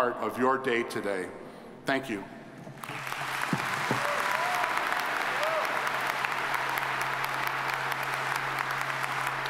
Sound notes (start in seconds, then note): 2.7 audience applauding